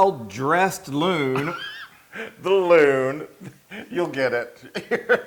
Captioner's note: laugh; laugh